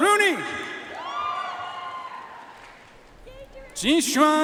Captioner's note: audience cheering and applauding